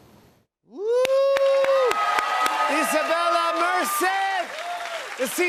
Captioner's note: cheers and applause